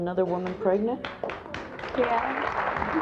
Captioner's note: audience applauds